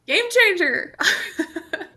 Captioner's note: chuckles